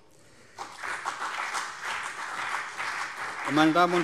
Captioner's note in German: Beifall CDU und BÜNDNIS 90/DIE GRÜNEN